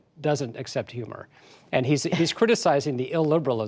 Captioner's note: laughter